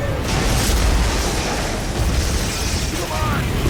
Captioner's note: loud crashing; dramatic music